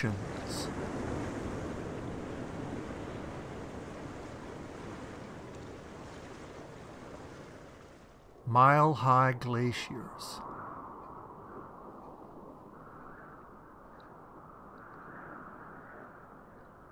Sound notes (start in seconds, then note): 0.2 waves splashing; 9.6 winds whistling